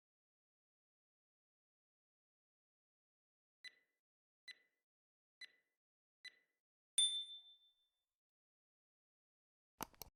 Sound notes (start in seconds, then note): 7.0 ding; 9.8 click